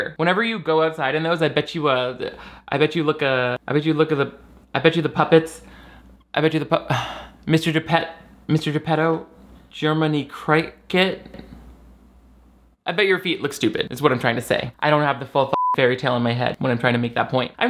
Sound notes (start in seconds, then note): 15.5 beep